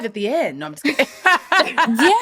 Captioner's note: chuckling